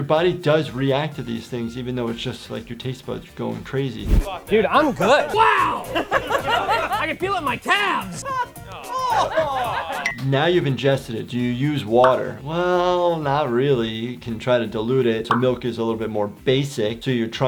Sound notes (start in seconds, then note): 4.8 group laughing